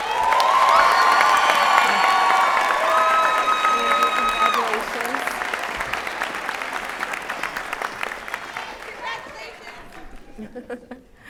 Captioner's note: applause and Cheering